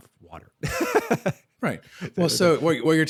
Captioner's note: laughs